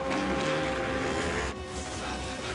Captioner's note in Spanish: Ruido de las motocicletas